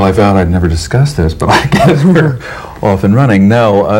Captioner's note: laughs